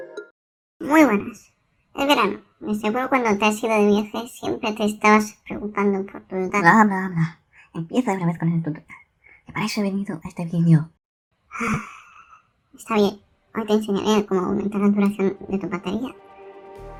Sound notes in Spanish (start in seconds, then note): 11.5 suspiro